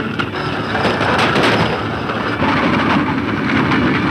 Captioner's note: gunshots